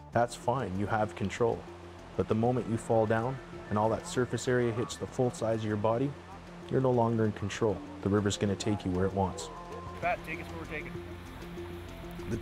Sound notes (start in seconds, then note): 2.2 voiceover